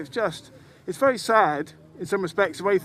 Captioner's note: none